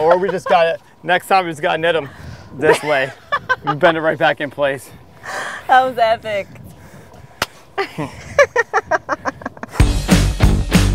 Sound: laughter

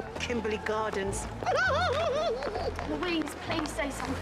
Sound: Kim laughs

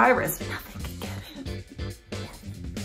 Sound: whispers

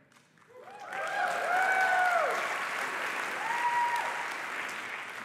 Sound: applause and cheering

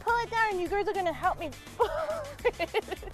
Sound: laughing; laughs

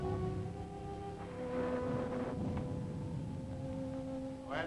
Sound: wind howling; thunder rumbling

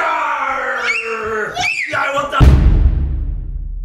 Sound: screams

